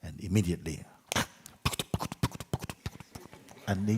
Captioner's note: horse riding sounds